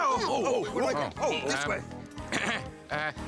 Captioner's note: Stinky yelping; Stinky and Jake clamoring; Armstrong clearing throat